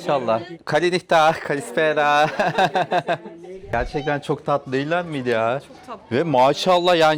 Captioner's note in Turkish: kahkaha